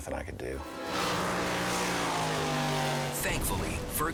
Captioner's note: engine roaring